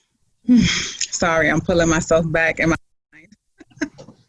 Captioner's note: laughs